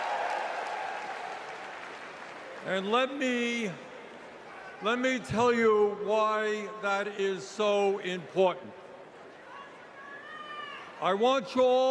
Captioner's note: cheers and applause